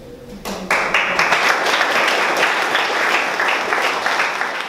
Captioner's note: audience applauds